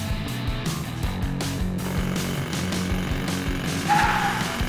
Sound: drilling

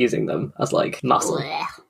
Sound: disgusted noises

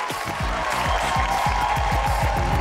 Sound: cheering, applauding

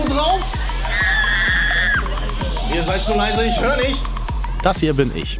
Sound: scream

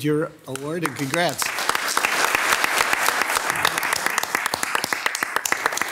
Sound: all loudly applauding

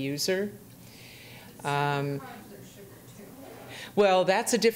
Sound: faintly speaking

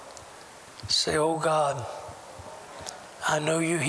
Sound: audience repeats prayer throughout

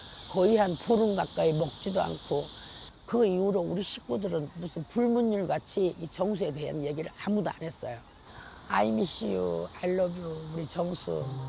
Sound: speaking korean

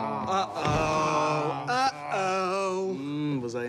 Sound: groaning

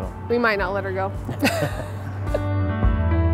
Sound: laughs; inspiring music

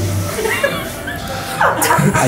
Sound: laughing

